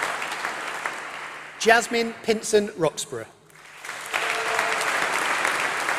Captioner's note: applause